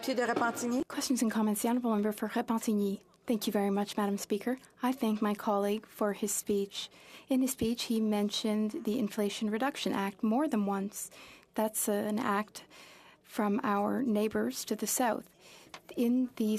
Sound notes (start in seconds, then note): 3.4 speaking French